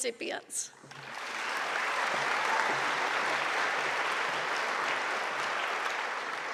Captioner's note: audience applauding; audience cheering